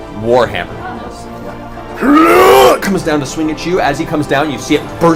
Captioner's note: groans